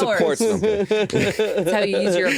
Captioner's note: all laughing